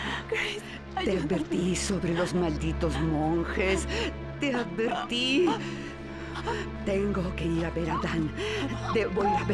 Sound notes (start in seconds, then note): 3.9 gasping